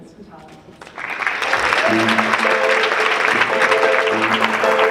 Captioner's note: audience clapping; jazz music